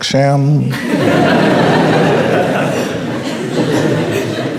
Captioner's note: crowd laughing